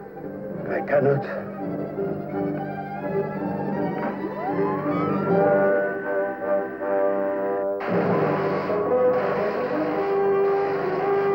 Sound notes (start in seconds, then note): 3.9 machine whirring; 7.8 zapping